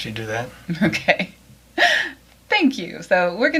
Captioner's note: laughs